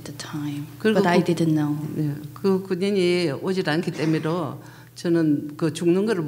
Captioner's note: speaking foreign language